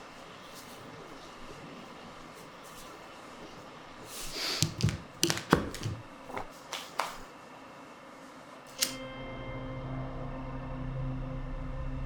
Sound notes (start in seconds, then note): 4.1 sniffs; 6.3 hands clap; 9.0 expectant music